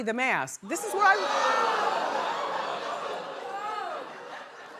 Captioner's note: audience oohing